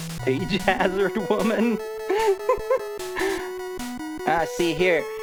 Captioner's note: laughing